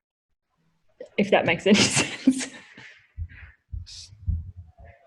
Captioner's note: laughs